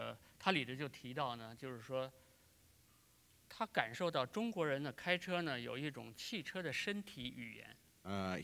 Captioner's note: speaking in Chinese